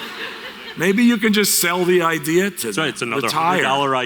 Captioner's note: audience Laughter